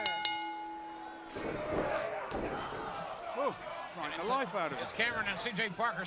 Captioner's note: bell ringing